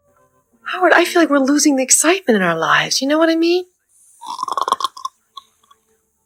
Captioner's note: snore